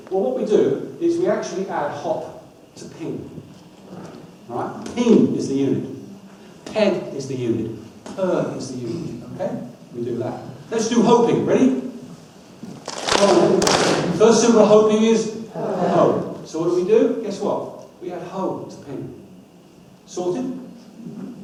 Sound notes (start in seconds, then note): 12.8 audience claps